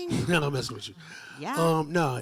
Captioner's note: chuckling